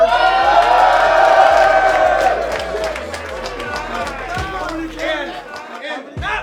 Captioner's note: cheering